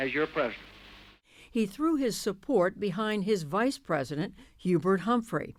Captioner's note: voice-over